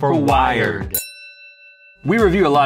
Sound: bell dings

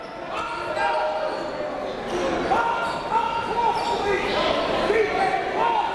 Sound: crowd talking; coaches yelling

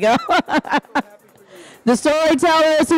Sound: laughing

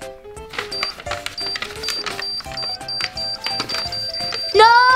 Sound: timer beeps

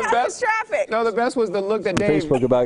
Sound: laughter

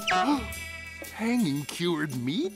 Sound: gasps

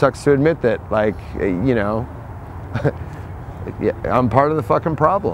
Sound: laughs

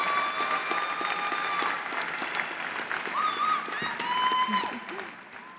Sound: applause

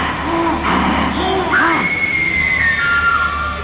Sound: Tina screams

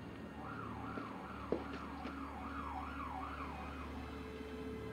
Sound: sirens wailing

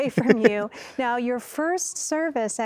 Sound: laughter

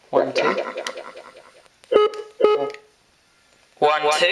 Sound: beeps

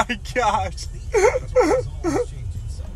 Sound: laughing

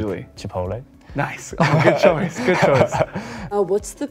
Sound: both laughing

